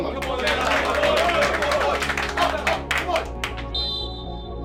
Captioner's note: team members cheering and clapping; referee's whistle